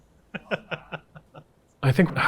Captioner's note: laughing